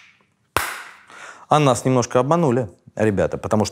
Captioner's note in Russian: хлопок